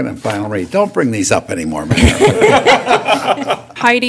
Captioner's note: laughter